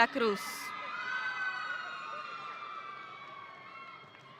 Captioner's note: audience cheering